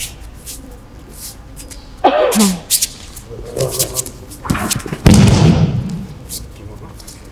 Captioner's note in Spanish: sonido desplazamiento en tatami y caída